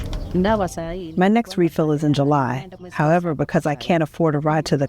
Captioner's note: through translator